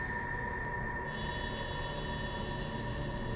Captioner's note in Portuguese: zumbido de insetos